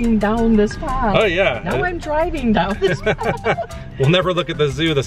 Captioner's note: laughter